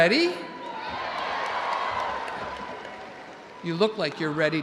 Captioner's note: audience cheering